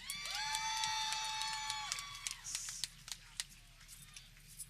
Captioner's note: people cheering